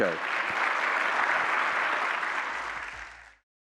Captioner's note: applause